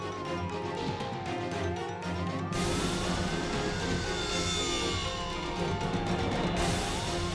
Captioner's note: dramatic music; sirens wailing